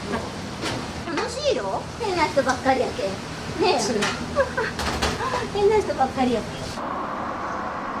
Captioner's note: laughs